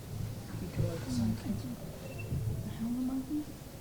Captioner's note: students murmuring